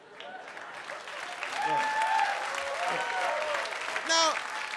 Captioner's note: audience cheers